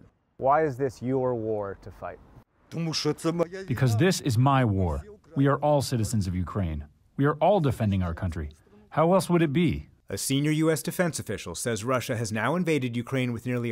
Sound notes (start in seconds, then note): 3.4 through translator